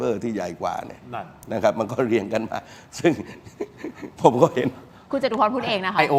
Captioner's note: laughs